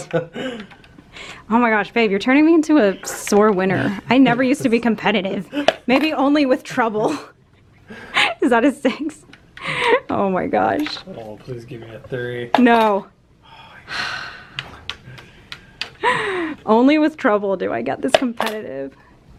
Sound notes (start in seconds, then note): 0.0 laugh; 7.6 laughs; 13.7 sighs